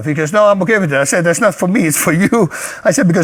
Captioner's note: laughs